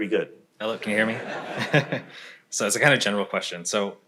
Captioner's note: crowd laughs; chuckles